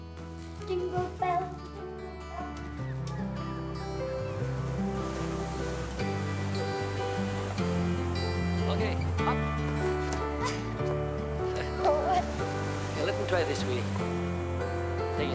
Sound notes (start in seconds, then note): 0.2 warm music; 3.4 seagulls squawking; 4.9 waves breaking